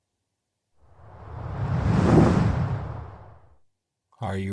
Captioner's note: air swooshing